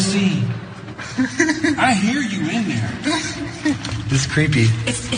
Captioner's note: laugh